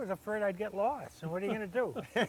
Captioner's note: laughing